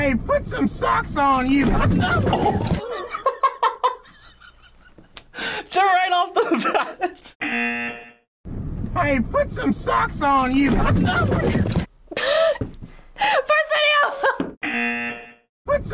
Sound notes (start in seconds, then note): 2.1 grunts; 2.6 laughs; 7.8 buzzer rings; 11.7 grunts; 12.5 laughs; 14.6 buzzer rings